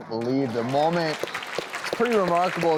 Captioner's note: clapping